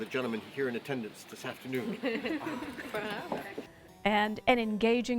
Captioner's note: laughter